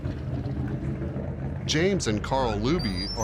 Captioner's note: engine running